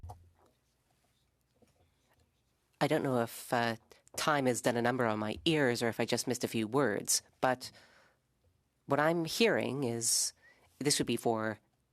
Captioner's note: speaking French